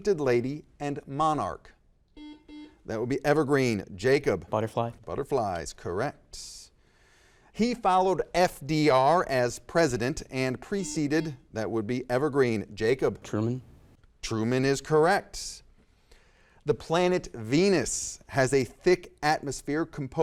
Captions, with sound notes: Painted Lady, and Monarch. (buzzer dings) That would be Evergreen. Jacob? - Butterfly. - Butterflies. Correct. He followed FDR as President and preceded- (buzzer dings) That would be Evergreen. Jacob? - Truman. - Truman is correct. The planet Venus has a thick atmosphere